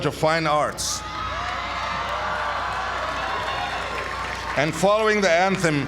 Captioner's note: applause